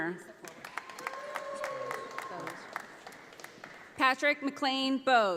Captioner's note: audience applauding